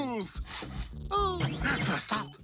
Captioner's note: sniffs, chuckles